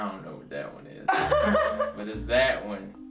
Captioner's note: laughs